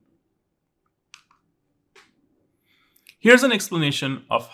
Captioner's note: remote clicking